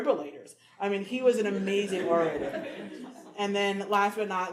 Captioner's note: audience laughing